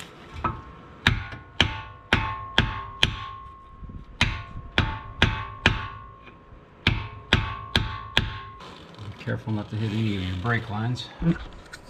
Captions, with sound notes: [Hammering noise] Careful not to hit any of your brake lines.